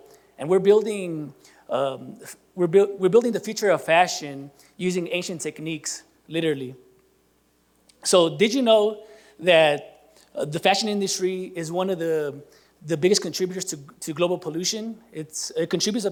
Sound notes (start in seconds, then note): none